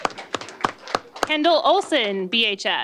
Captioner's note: applause